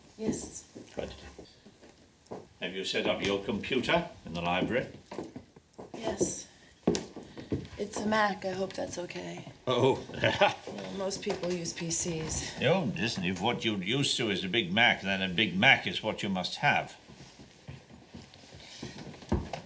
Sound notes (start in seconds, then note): 9.7 laughs